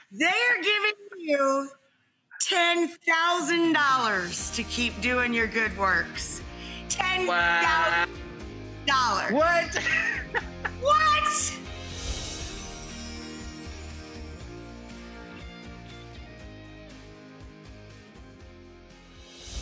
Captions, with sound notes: They are giving you $10,000 to keep doing your good works. $10,000! Wow. What?! (laughs) What?! (guitar strumming)